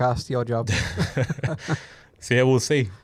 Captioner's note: both laughing